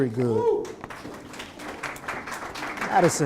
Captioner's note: applause